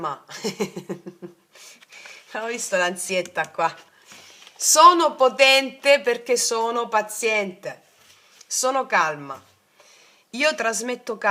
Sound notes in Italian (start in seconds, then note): 0.3 risate